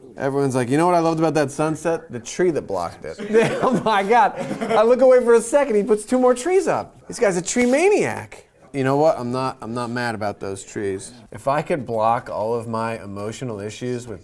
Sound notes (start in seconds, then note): 3.2 laughter